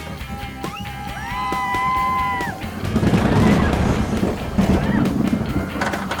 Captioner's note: riders scream on the roller coaster